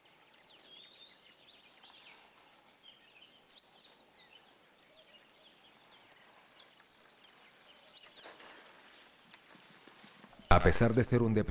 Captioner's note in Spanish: sonidos selváticos